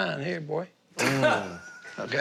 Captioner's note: laughing